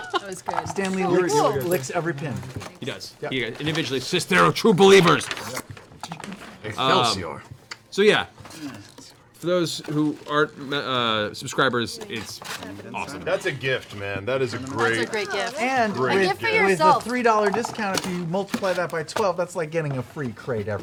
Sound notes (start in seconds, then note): 4.8 slurp noise